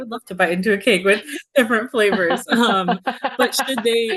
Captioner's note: laughing